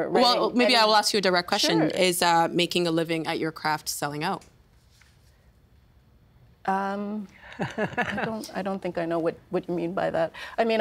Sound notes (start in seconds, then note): 7.4 laughing